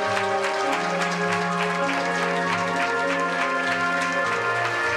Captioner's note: applause